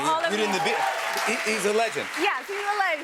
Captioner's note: cheers and applause